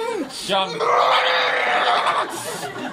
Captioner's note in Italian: urla demoniache